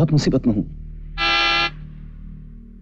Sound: horn blares

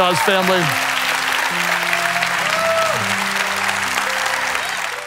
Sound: cheering loudly; hands clapping loudly

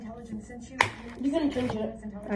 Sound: pop

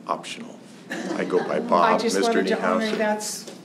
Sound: laughter

